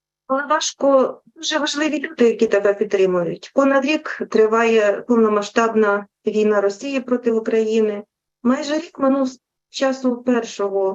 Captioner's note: foreign Language Spoken